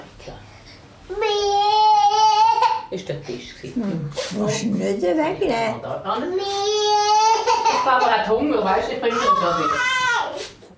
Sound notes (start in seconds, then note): 1.0 cries; 6.8 cries